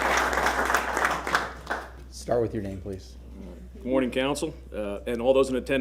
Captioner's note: applause